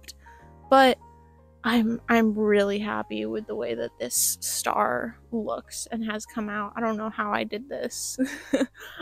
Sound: lughter

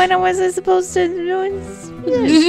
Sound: laughs

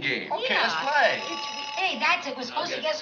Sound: phone rings

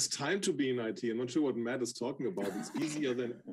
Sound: laughing

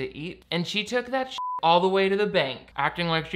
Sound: beep

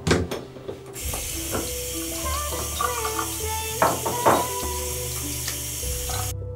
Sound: water running from faucet

